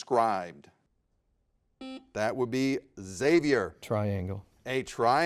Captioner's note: buzzer beeps